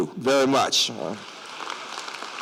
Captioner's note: applause